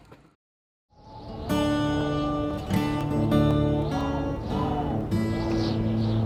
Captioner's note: wind whistling